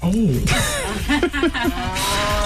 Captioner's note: laughing